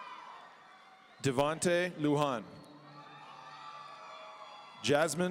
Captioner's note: audience cheering; audience cheering